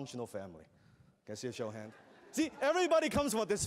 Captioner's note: laughter